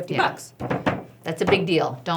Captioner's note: table stumping